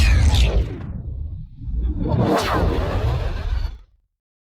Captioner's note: much expolosion